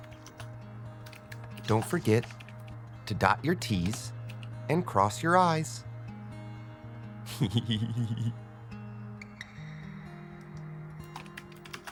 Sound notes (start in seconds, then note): 7.2 giggling